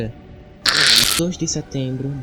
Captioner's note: demon screech